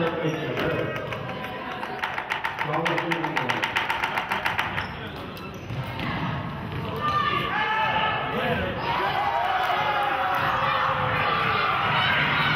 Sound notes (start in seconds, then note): 3.0 audience knocking; 8.8 audience cheers